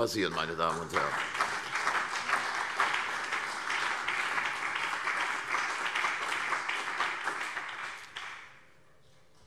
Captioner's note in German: Beifall CDU und BÜNDNIS 90/DIE GRÜNEN